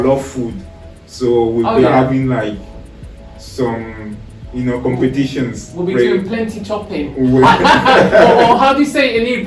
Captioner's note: laughs